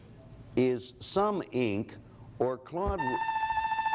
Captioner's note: alarms sounds